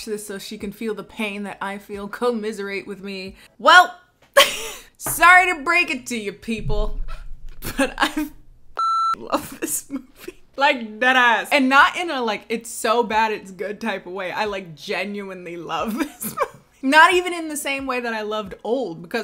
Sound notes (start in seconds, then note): 7.6 laughs; 8.7 beep; 16.3 laughs